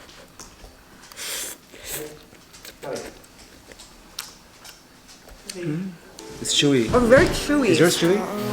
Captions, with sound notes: (slurping) - It's chewy. - It's very chewy.